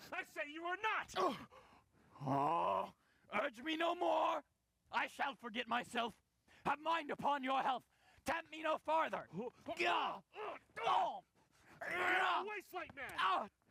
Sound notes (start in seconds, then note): 9.5 grunting, yelling